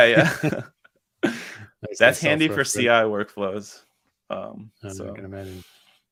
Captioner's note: laughs